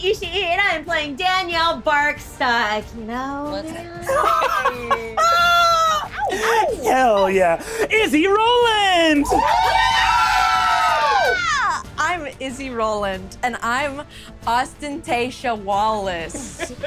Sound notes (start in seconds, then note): 4.0 laughing; 8.5 group cheering; 16.3 laughing